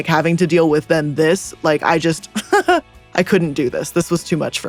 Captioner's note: laughs